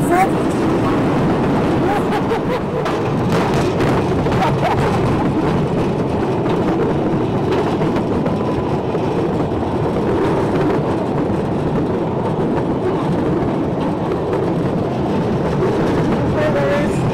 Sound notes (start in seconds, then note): 2.8 bang!; 3.7 laughs